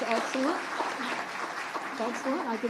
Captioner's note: attendees applauding